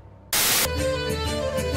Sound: static

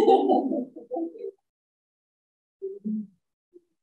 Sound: laughs

